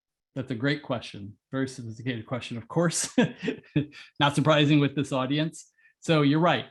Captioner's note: laugh